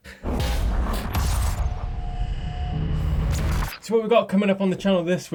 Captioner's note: electronic metallic zapping